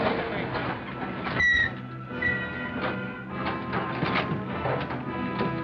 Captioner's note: car brakes squeak